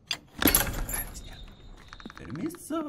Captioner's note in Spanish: Susurra